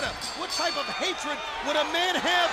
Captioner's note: bell ringing